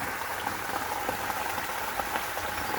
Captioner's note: sound of a waterfall